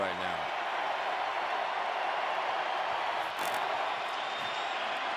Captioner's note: cheering